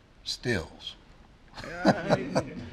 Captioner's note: laughter